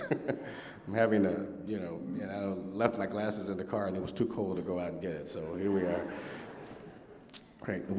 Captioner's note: laughter